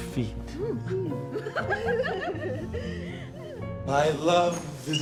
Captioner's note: girls giggling